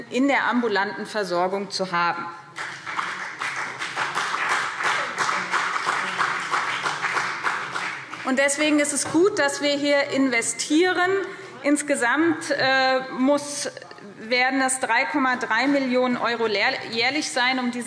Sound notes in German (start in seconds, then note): 2.5 Beifall BÜNDNIS 90/DIE GRÜNEN und CDU